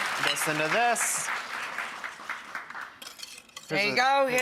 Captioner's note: audience clapping